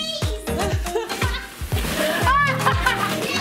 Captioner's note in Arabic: يضحك